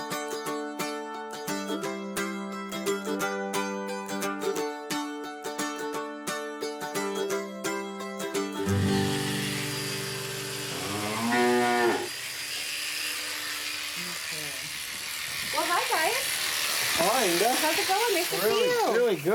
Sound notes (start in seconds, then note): 8.8 clippers buzzing, cow mooing